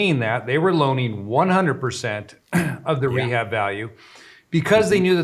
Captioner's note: clears throat